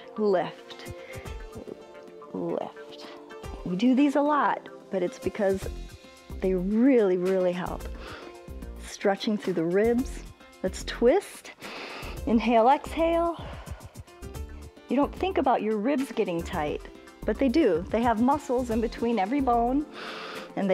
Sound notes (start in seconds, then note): 11.6 inhales; 14.1 exhales